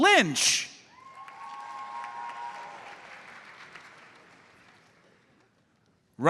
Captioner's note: audience cheers and applauds